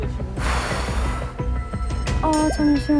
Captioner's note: taking a deep breath